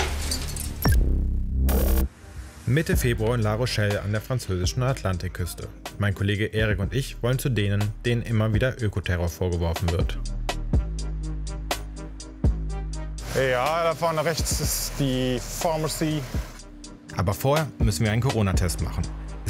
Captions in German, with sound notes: (Dröhnen) Mitte Februar, La Rochelle an der französischen Atlantikküste. Mein Kollege Erik und ich wollen zu denen, denen immer wieder Ökoterror vorgeworfen wird. (Entspannte Musik) Ey, ja, da vorne rechts ist die Pharmacy. Aber vorher müssen wir einen Coronatest machen.